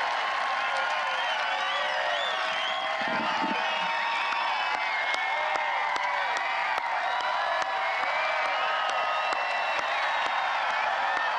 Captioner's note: applause